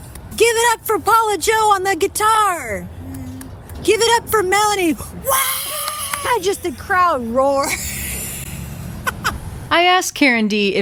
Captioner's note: claps softly; claps softly; screams